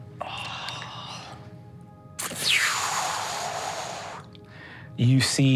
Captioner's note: magical music; sighs